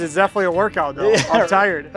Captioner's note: laughs